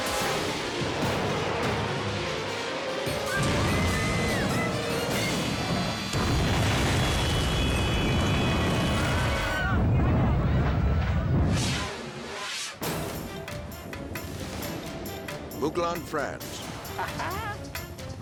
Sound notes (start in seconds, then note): 5.0 explosion booms; 11.4 fast whooshing